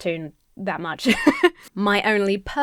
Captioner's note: laughs